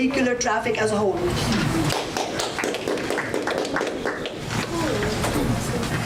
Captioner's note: audience applause